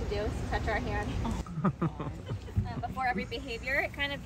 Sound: laughing

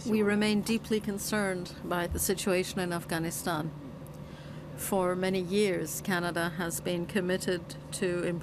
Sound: speaking French

